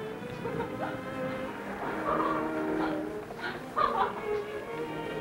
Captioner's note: laughter